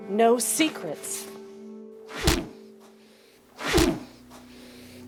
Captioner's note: thwacking